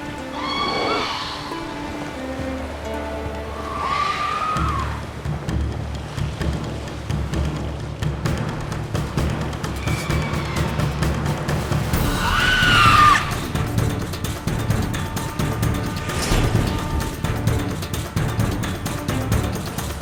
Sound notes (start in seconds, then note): 0.3 screech; 4.4 screech; 12.0 screech; 15.2 magical chime